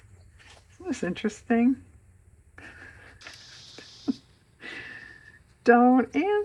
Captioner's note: laughs